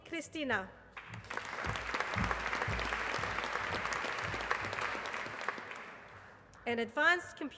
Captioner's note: applause